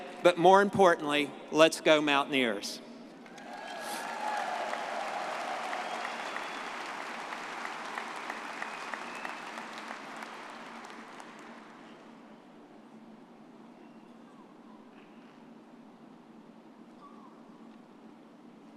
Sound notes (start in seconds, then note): 3.3 audience cheers